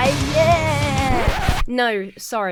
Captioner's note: record scratches to a halt